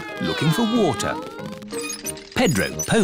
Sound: all mimicking aeroplane sounds

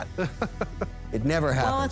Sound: laughs

